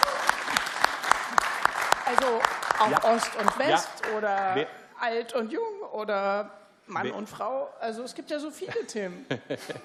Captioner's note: applause